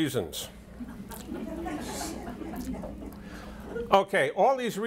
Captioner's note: audience laughter